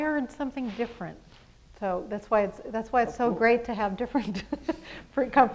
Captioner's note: laughs